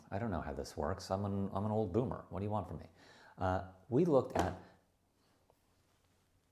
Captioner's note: bangs into table